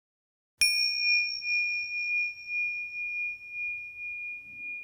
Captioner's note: bell chimes